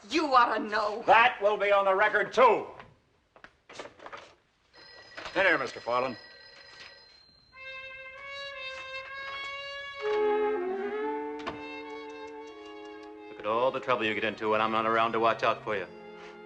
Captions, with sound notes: - You ought to know. - That will be on the record too. - [ Phone Rings ] - In here, Mr. Farlunde. [ Clicking Tongue ] Look at all the trouble you get into when I’m not around to watch out for you.